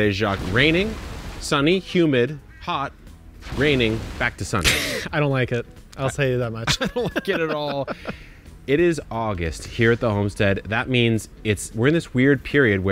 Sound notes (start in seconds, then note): 6.6 laughing